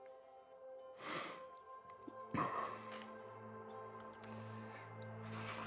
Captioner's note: softly crying